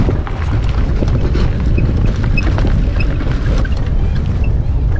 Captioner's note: truck squeaking